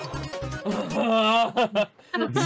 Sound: laughing

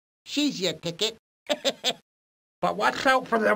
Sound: laughs

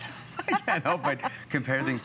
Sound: laughter

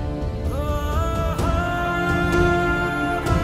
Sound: emotional vocalising

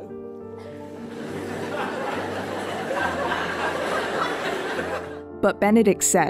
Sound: laughter

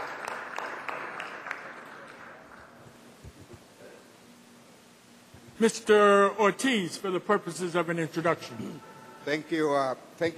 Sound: applause

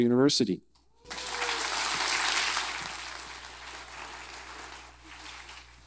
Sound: audience applause

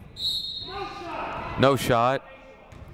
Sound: whistle blowing

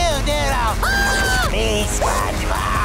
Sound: screaming

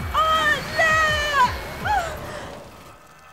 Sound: sound of hair dryer

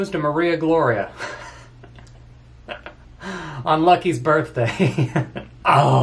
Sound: laughs

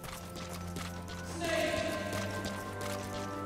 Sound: Otacon, echoing

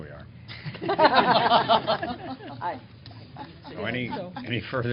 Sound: laughter

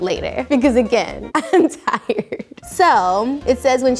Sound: laughs

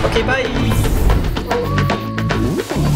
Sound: wolf howling

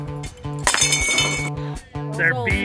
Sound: metal clinking

